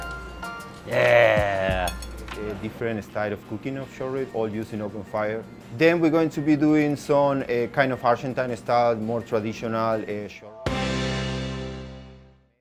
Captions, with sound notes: Yeah. - [Male Voice] Okay, different style of cooking of short rib or use an open fire. Then we're going to be doing some, kind of Argentine-style, more traditional.